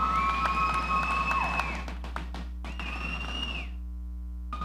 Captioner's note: audience whistling